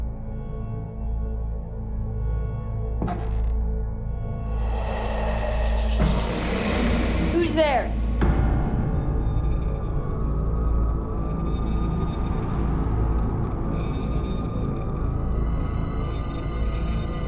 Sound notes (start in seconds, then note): 6.0 creaking; 9.6 eerie music